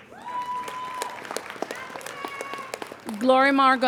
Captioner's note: applauding